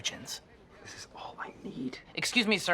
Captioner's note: kind of whispered